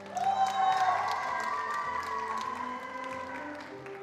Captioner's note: attendees applauding